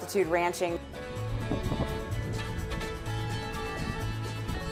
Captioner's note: wind blowing